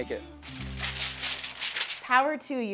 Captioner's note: paper crinkling